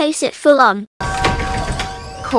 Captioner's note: door bell rings